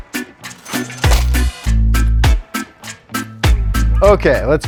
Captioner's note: rhythmic island music; cash register dings